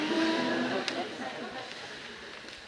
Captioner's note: laughs